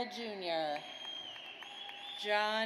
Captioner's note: audience cheers